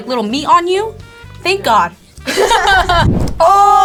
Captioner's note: laughs